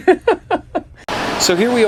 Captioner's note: laughing